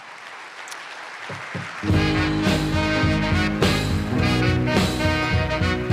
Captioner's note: applause